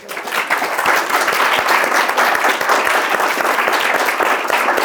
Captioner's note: audience applauding